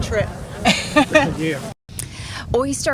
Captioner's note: laughs